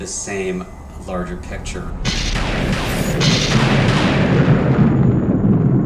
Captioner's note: thunder crashing; gentle mysterious music; thunder rumbling